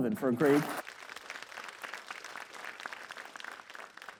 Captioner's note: audience applauds